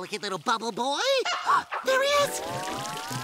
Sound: gasping

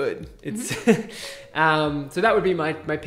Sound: man laughs

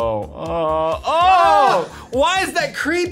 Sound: both grunt in discust

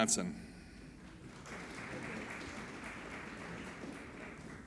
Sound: applauding

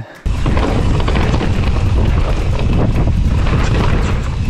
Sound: bike tires rumbling

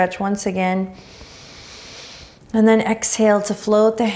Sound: inhaling deeply

